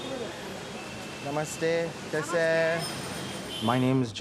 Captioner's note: speaking Hindi